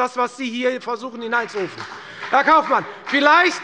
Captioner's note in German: Beifall bei der FDP